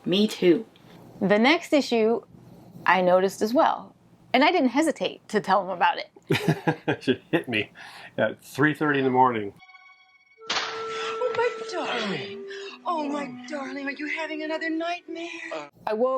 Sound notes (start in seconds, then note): 10.4 slaps face